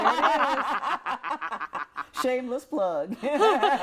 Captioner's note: group laughs